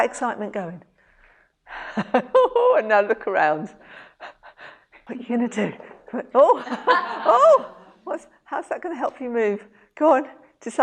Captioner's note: laughs